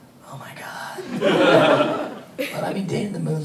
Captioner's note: audience laughing